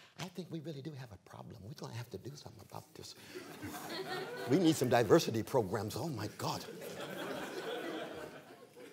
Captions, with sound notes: I think we really do have a problem. We're going to have to do something about this. [LAUGHTER] We need some diversity programs, oh my god.